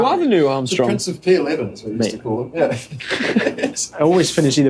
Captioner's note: laughter